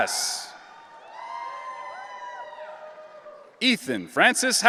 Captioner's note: audience cheering